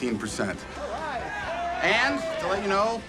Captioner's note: cheering